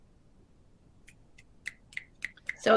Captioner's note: snapping thumbs